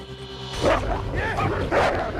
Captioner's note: barking